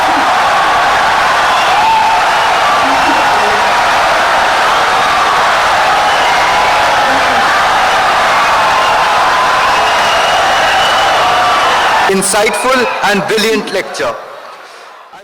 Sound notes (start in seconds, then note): 3.5 wild applause and cheering for 17 seconds